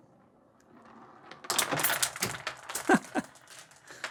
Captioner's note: marbles rolling; laughs